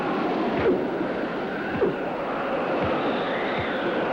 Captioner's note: fist thuds